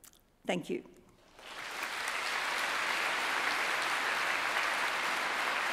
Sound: audience applauding

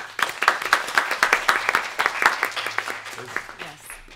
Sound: applause

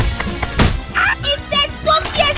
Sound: punch sound

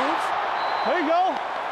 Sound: crowd cheering

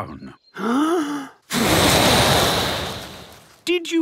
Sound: inhaling deeply; blowing

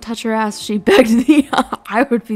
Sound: laughs

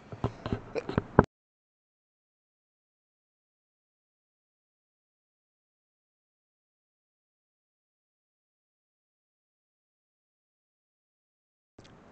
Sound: awkward pause because I was coughing

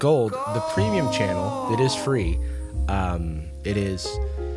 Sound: disembodied voice

